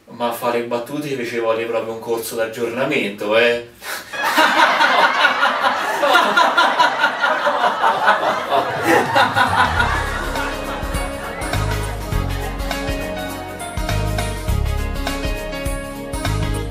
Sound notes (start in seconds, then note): 4.0 fake laughter